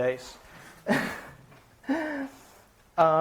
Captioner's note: chuckles